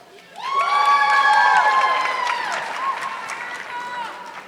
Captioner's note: audience clapping